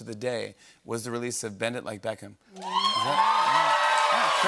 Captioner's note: cheers and applause